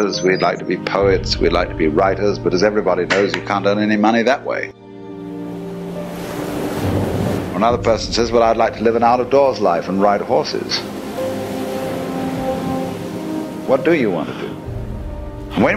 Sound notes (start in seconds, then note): 6.1 ocean rushes